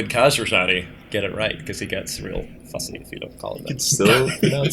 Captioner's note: laughter